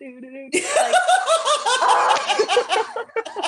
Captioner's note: laughter